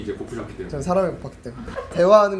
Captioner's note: haha